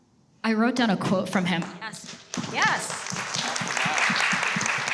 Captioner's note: everyone applauds